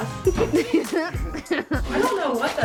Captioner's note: laugh